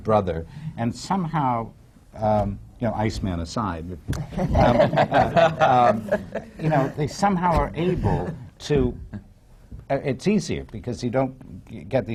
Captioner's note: laughter